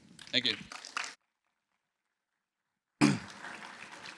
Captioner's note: applause